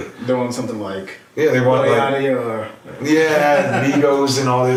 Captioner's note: laughing